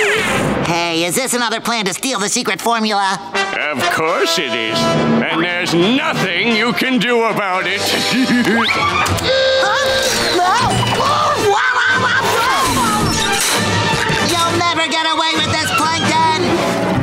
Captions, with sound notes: Hey, is this another plan to steal the secret formula? Of course it is, and there's nothing you can do about it! [laughing] Huh? Whoa! [screaming] You'll never get away with this, Plankton!